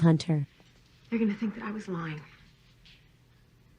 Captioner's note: on TV